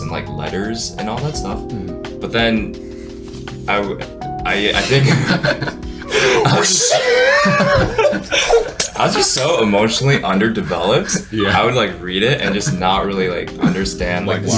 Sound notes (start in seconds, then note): 4.4 mimics tearing paper; 4.7 everyone laughs